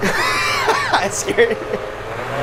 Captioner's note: laughing